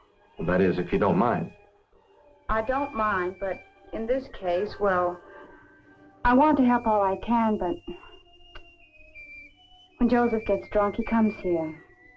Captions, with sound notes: That is, if you don't mind. - I don't mind, but in this case, well, I want to help all I can, but (exhales and scoffs) when Joseph gets drunk, he comes here.